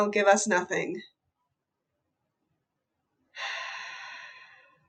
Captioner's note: sighs deeply